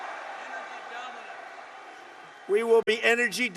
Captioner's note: applause